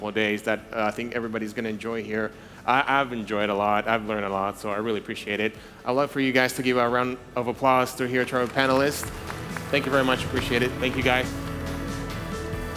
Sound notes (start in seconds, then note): 8.1 audience applauds; 12.5 upbeat music